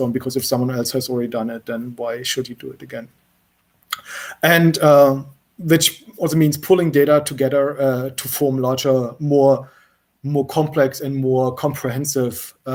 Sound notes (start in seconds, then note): none